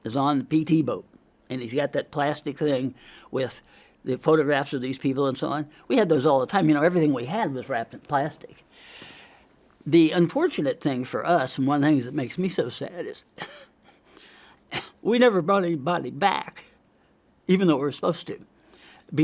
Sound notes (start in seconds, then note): 8.7 inhales; 13.3 coughs